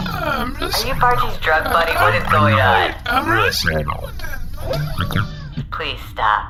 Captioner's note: tearing up